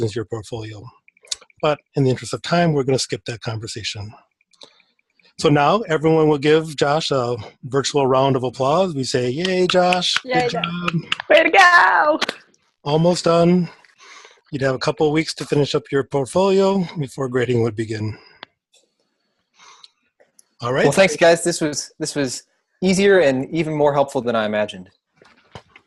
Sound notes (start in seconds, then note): 9.4 clapping